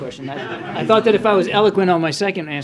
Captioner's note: laughter